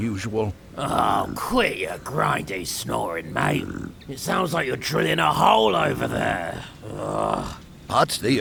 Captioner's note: groan